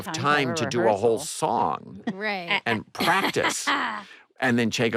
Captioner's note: laughs